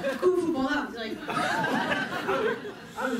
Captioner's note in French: rires